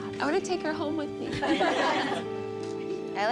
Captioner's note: laughter